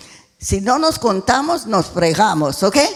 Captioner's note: speaking in foreign language